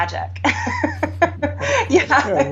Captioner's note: both laugh